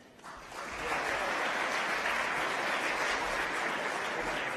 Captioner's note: applause